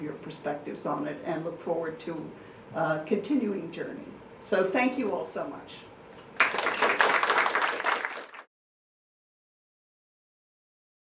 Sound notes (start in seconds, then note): 6.3 clapping